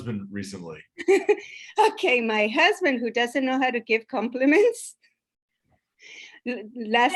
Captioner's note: laughs